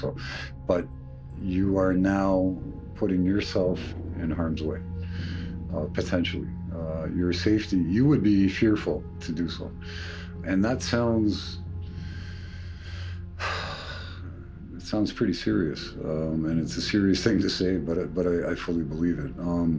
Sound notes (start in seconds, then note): 11.9 sighing